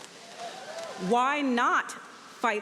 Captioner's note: audience cheering